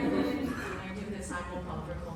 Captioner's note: applause, laughter